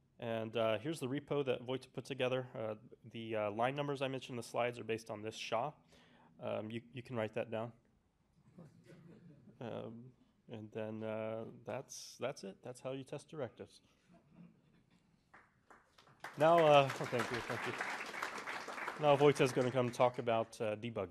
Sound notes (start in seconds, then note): 15.3 applause